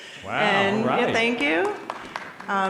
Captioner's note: audience applauding